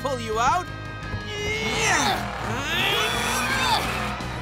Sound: grunting

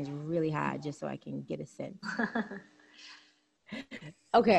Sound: laughs

